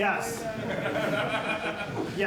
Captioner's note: laughter